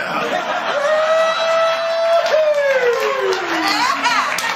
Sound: laughter

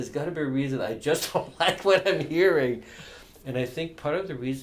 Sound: laughs

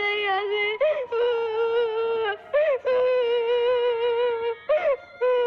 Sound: crying

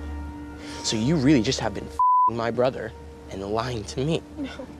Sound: beeping

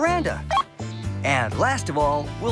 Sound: beep

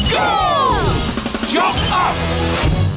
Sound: none

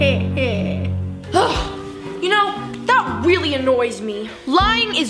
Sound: sighs

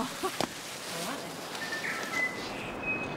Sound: laughs

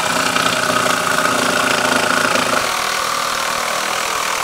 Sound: chainsaw whirling

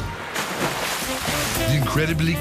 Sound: water splashing

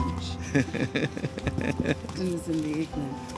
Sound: laughter

